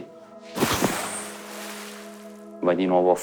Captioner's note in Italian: Splash